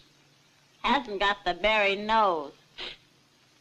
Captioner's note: sniffs